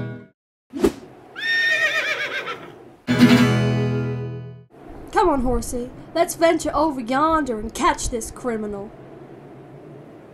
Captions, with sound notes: *angry neigh* come on horsey let's venture over yonder and catch this criminal